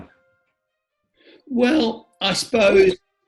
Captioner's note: voices cracks